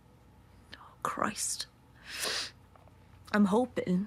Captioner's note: she inhales